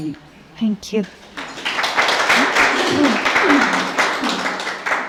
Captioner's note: applause